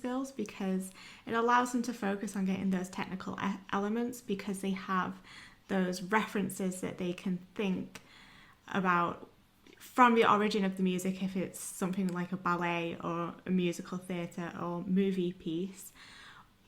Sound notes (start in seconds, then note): none